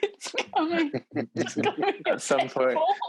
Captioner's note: laughing